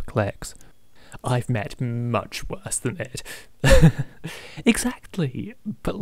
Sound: laughs

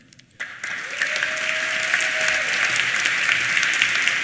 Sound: applause

